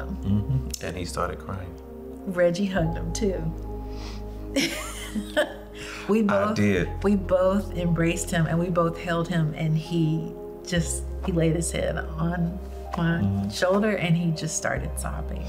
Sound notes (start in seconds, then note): 4.6 chuckles